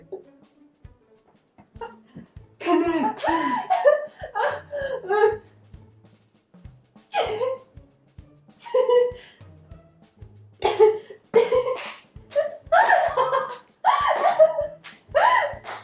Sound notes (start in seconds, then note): 4.1 can't breathe; 8.6 giggling; 10.7 laughing